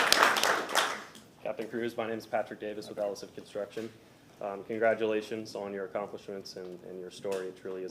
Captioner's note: applause